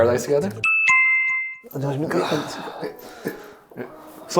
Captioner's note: doorbell chiming